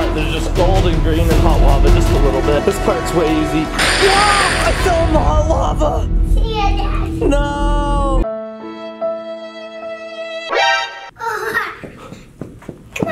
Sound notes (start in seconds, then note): 3.8 exclaims; 8.3 sad music